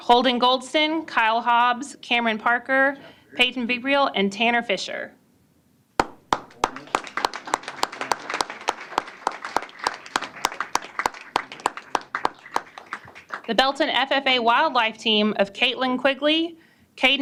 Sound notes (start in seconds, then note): 6.0 applause